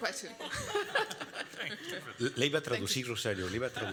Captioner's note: panelists and audience member laughing; speaking Spanish